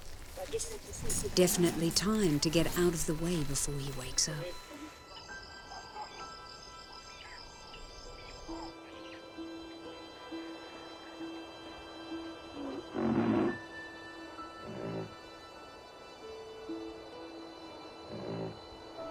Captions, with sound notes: Definitely time to get out of the way before he wakes up. (birdsong) (rhino grunting)